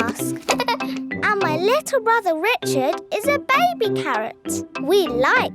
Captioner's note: giggles